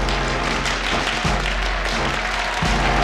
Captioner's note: crowd cheering